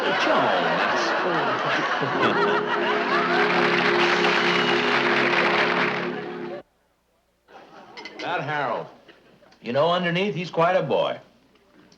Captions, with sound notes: - Joan! That's... (audience laughing and applauding) - That Harold. You know, underneath he's quite a boy.